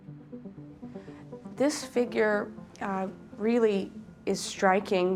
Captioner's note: speaking English